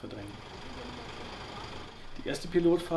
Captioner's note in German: Motorengeräusche